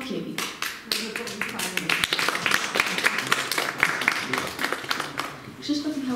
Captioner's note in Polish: oklaski